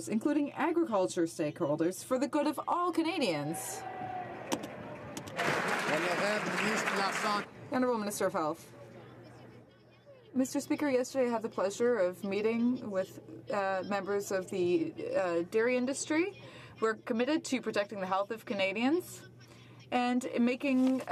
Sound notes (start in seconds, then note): 7.7 some Applause